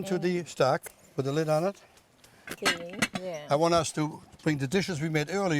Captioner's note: pot rattling